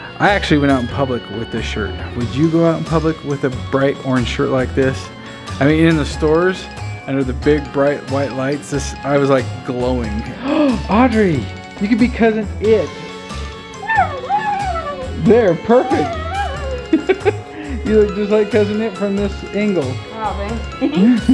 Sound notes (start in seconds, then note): 10.3 gasps; 13.7 whimpers; 16.8 laughs